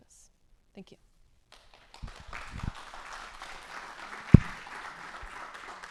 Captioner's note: applause